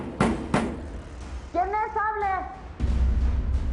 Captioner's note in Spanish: Toques en la puerta